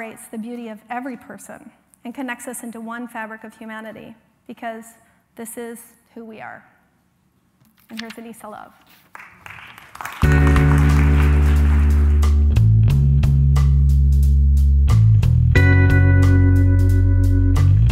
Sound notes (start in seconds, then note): 9.0 applause